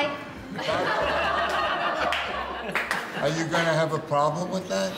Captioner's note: laughing